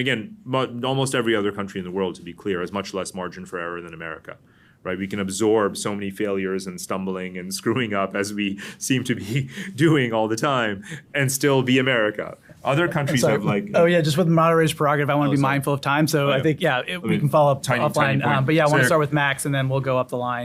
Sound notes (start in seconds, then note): 12.6 laughs